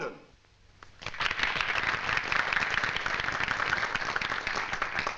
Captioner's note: applause